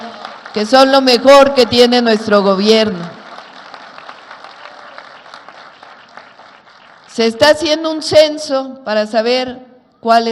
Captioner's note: applause